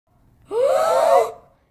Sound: gasp!

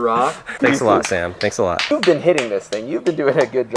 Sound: clapping

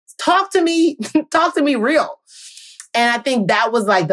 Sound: chuckles

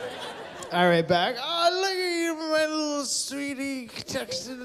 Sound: slurring

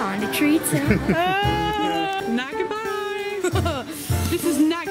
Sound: laughs

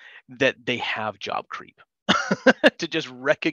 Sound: laughs

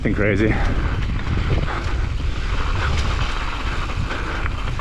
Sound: breathing heavily

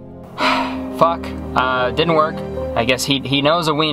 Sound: sighing

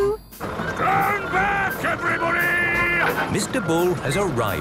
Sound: shouting

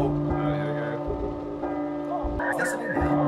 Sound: clock chiming; clock chiming, moaning

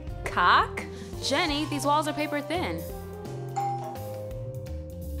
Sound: doorbell

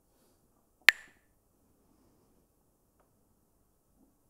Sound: Mooji clacks the sticks

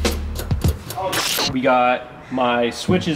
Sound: static

